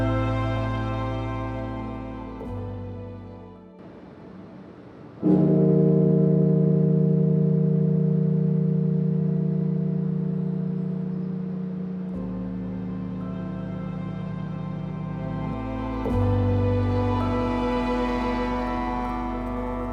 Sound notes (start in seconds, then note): 5.4 bell tolling; 8.3 somber music